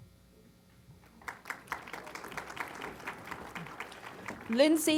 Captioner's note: applause